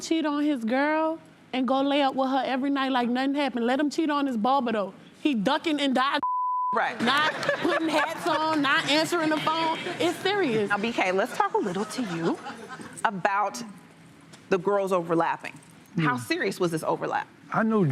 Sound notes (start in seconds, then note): 6.2 beep